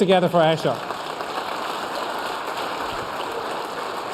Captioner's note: applause